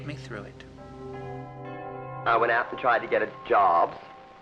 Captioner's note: church Bells